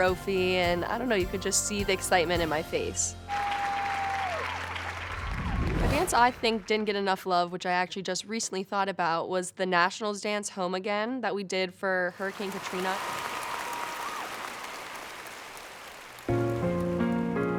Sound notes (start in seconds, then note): 3.2 cheering; 12.2 crowd applauding; 16.2 gentle music playing